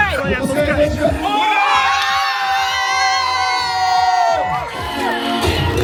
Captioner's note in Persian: صدای جیغ; صدای تشویق